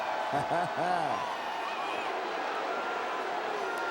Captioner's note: Jim cackles